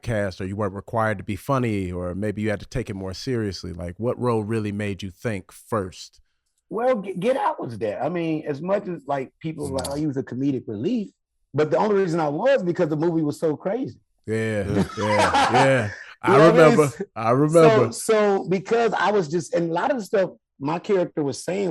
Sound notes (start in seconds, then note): 14.4 Rel laughing